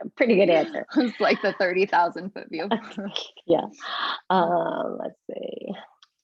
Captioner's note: laugh